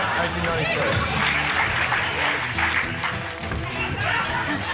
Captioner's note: cheering, applause